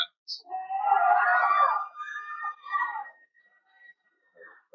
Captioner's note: cheering